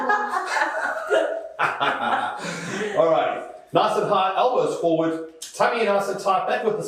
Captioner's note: laughter